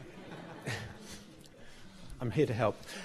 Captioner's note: laughter